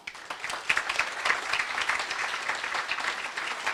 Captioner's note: applause